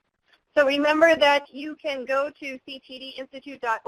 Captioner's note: voiceover